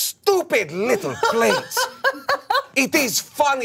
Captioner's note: laughs